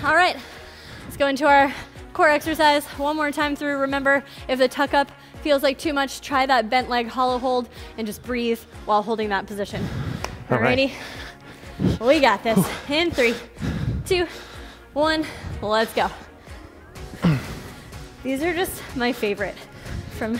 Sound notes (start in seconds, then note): 15.8 panting; 16.7 upbeat music